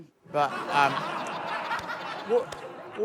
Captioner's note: laughter